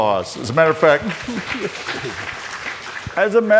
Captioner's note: audience applauds